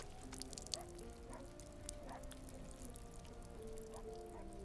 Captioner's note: blood dripping